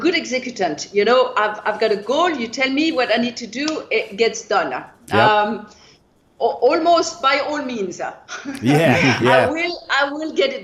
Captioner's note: laughter